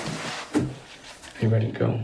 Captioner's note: footsteps thudding